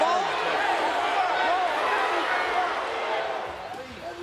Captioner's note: crowd yelling